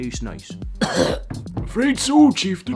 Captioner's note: chokes